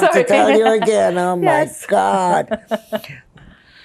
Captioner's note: laughing